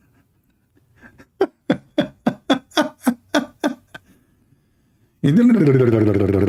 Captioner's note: Ketawa